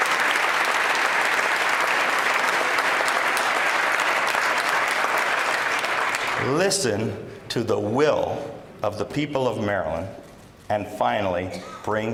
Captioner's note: applause